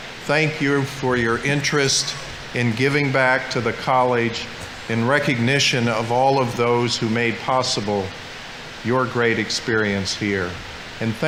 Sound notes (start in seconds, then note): none